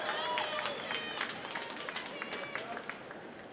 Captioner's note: applause